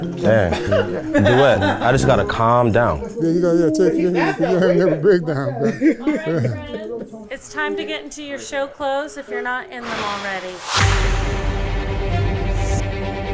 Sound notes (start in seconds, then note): 5.7 laughing; 9.8 tense music